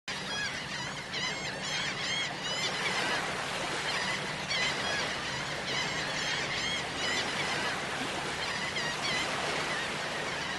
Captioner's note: seagulls Cawing